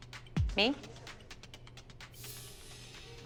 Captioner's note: whispering